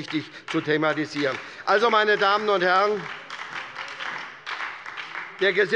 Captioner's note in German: Beifall bei der SPD